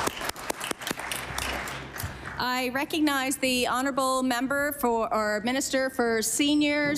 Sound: applause

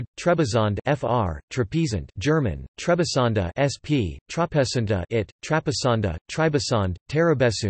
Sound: German

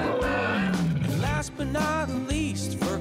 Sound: bear roars; monkey hooting

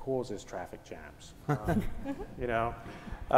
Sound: laugh

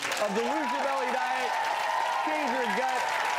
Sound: applause

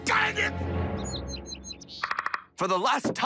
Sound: bird singing

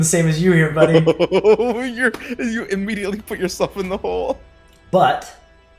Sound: laugh

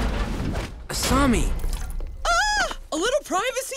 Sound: squealing

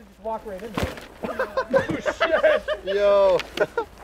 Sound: laughter

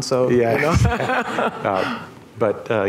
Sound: laughter

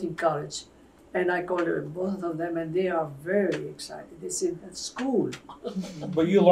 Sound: laughs

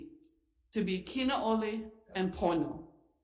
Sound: speaks Ōlelo Hawai'i

